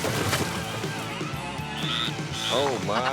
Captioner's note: frog chirping